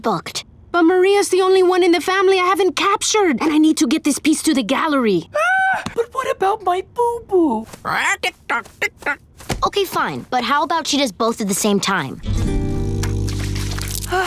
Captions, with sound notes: But Maria's the only one in the family I haven't captured, and I need to get this piece to the gallery. [screaming] But what about my boo-boo? [squawking] Tick tock, tick tock. Okay fine, but how about she does both at the same time.